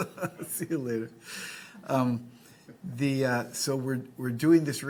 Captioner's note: laughs; audience laughing